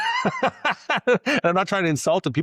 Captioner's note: laughs